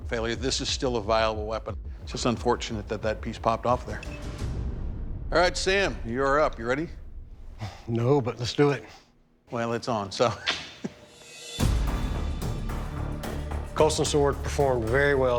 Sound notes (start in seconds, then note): 10.2 chuckles; 11.1 tense music